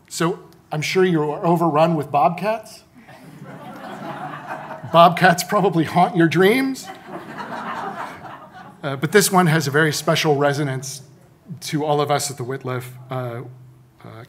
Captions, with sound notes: So I'm sure you are overrun with bobcats. (audience laughing) Bobcats probably haunt your dreams. (audience laughing) But this one has a very special resonance to all of us at the Wittliff.